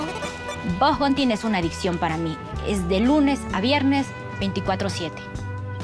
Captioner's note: speaks in Spanish